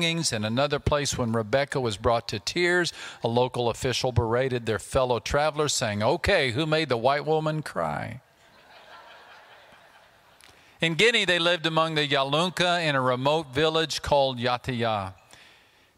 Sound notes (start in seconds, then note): 8.4 audience laughter